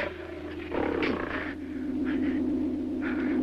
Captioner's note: grunting